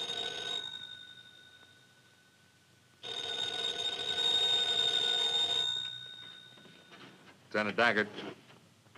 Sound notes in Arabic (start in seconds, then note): 0.0 رنين